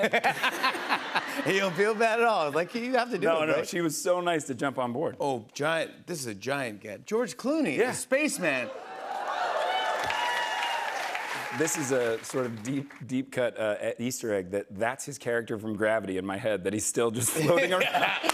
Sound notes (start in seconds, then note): 0.0 laughter; 8.5 cheers and applause